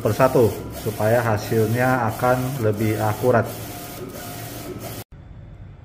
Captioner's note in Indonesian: suara mesin printer